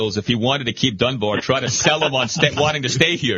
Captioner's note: laughing